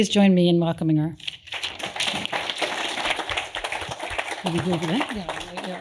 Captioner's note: applause